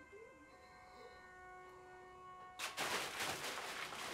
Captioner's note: Plank whimpers